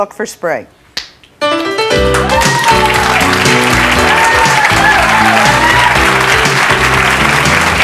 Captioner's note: jazzy music; audience clapping